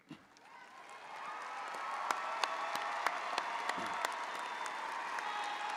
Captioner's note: audience applauding; audience cheering